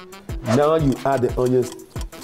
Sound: clock ticks

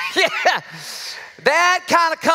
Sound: laughs

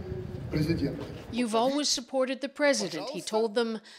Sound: speaking Foreign Language

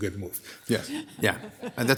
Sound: all laughing

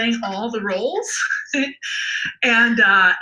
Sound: laughs

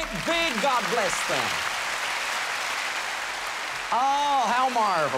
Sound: boisterous applause

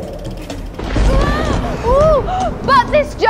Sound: thunder

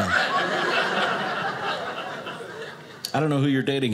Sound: audience laughing

